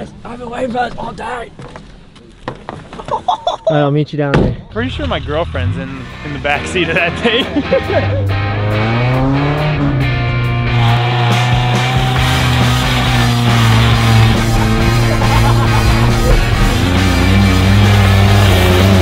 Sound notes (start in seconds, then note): 3.0 laughs; 8.0 hard rock music; 15.0 laughing